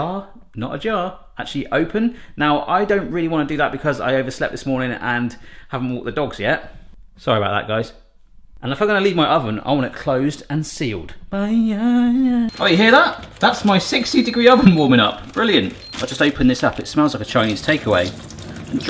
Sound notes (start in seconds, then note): 11.8 sings; 12.4 machine beeps; 17.3 liquid dripping